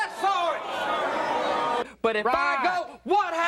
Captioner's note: audience booing